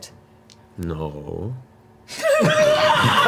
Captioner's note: unconvincingly; all laugh